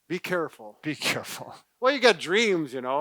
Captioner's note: laughing